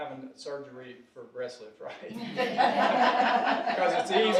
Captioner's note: audience laughing